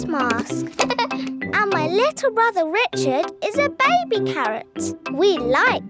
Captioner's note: giggles